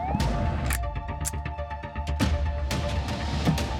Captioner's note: gun cocks